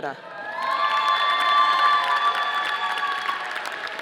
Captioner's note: audience applauding